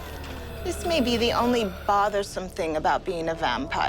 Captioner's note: sighs